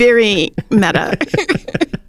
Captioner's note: laughs